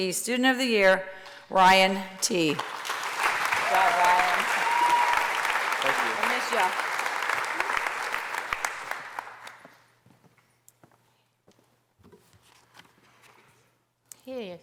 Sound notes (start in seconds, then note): 2.8 applause